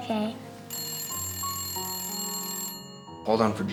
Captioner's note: phone rings